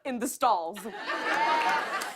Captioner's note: laughter